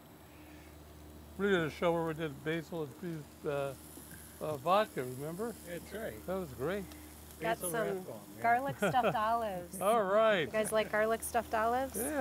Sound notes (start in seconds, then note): 8.6 laughs